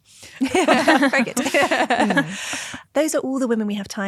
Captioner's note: group laughing